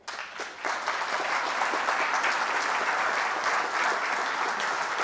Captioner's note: audience applauding